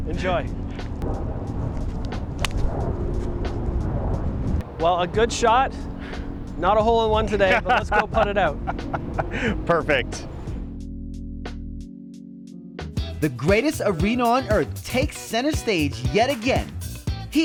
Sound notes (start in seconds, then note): 2.3 golf ball clacking; 7.0 man laughing; 11.9 mellow instrumental music